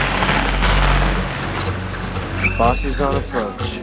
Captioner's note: fireworks crackling